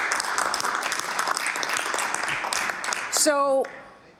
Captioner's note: some Applause